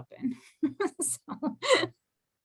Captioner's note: laughter